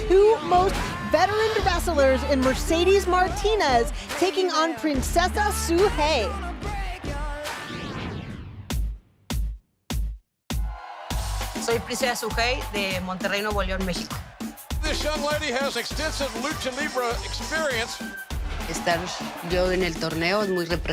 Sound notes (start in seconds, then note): 11.5 cheers and applause; 20.7 speaking spanish